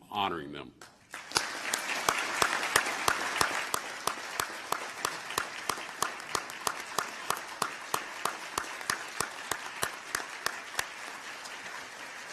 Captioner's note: applause